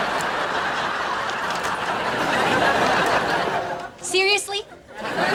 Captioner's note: audience laughing